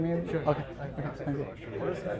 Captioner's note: faintly speaking